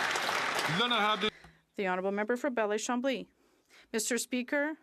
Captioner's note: some Applause